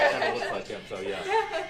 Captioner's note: laughter